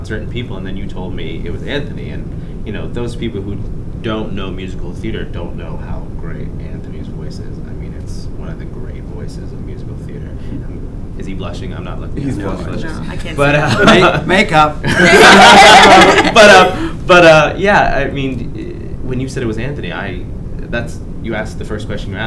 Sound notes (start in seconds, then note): 17.2 laughs